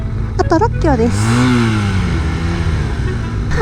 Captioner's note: vrooom~